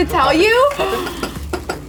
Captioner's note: gasping